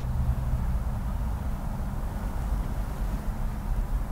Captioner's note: white noise rumbling